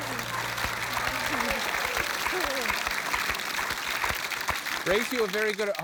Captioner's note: applause